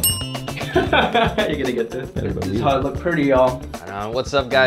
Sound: laughter

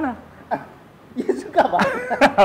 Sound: laugh

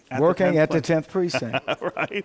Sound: laughs

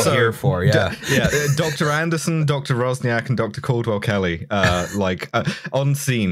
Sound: laughter

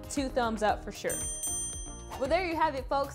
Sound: bell chimes

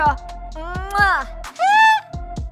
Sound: kissing sound

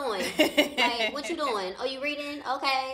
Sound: laughs

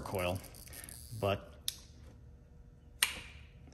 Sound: switch clicks off

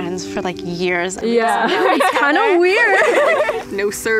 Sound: all laughing

